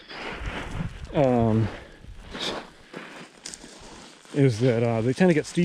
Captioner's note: gravel crunching; footsteps thumping